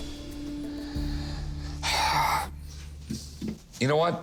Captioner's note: Rick sighing